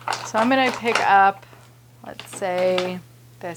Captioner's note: markers rattling